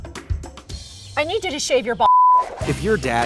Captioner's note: beep